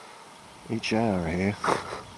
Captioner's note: laughing